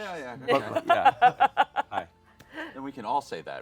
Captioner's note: laughs